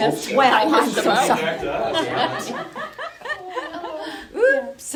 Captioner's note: laughing